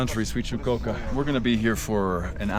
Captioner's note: foreign language